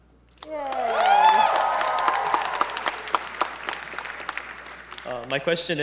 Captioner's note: audience members cheering